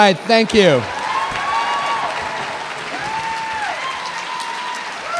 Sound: audience applauding

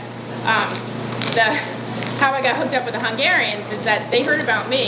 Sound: laughing

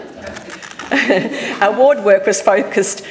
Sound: audience laughing; chuckles

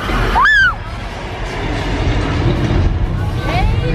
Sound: screams

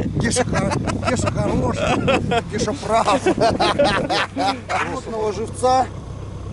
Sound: laughing

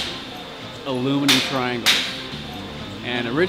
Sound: hammers pounding

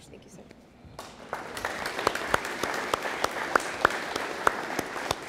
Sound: audience applauding

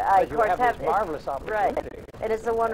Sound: laughs

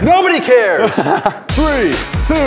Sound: laughter

